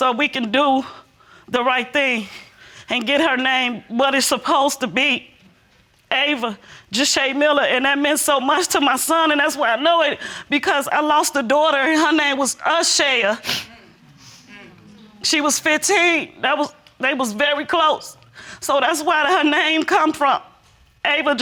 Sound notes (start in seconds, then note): none